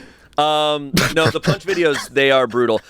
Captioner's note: laughs